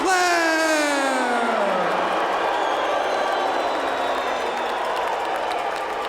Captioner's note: crowd cheering and booing